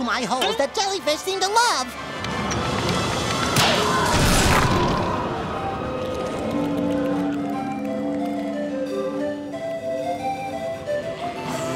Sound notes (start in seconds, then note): 1.9 wind blowing; 6.0 whistling; 11.0 whistling, buzzing